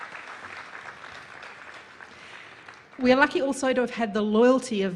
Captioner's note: applause